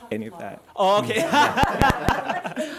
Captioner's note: laughs; audience laughs